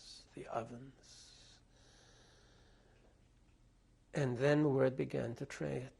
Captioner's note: pauses for 3 seconds